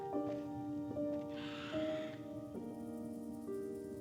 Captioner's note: vulture caws